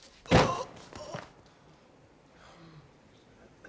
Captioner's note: grunting